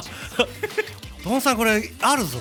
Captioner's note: giggle